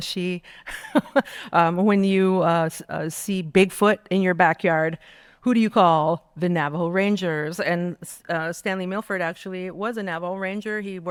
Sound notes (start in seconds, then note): 0.6 laughing